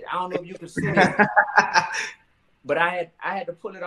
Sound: laughing

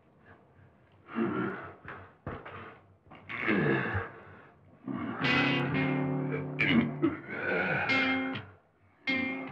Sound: caveman grunting

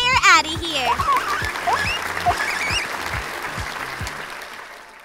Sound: audience clapping

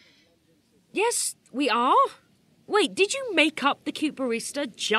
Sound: none

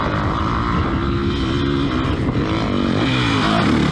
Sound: engine revving

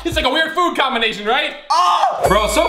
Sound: screaming

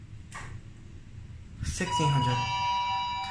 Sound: down chime rings

